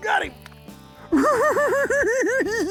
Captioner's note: giggling